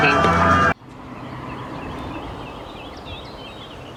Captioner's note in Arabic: العصافير يغنون